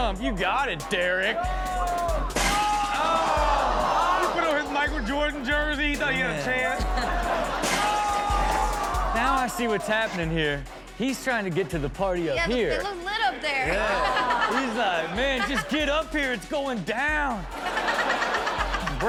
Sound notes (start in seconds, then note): 2.4 all oohing; 2.7 glass shatters; 7.6 glass shatters; 13.6 laughs; 18.0 all laugh